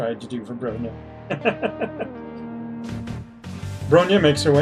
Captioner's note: laughs